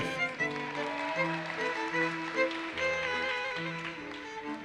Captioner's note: audience cheers and applauses